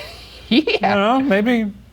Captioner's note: laughing